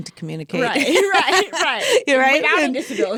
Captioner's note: both laughing